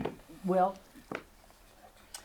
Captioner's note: objects knocking